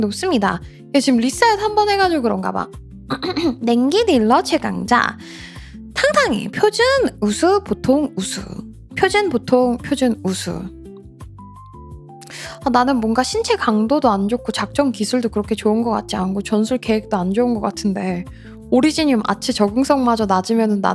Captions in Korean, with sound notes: 높습니다. 지금 리사 한번 해 가지고 그런가 봐. [목을 가다듬음][기침] 냉기 딜러 최강자 상상이 표준 우수 보통 우수 표준 보통 표준 우수 아 나는 뭔가 신체 강도도 안 좋고 작전 기술도 그렇게 좋은 거 같지 않고 전술 계획도 안 좋은 거 같은데 오리지늄 아체 적응성마저 낮으면은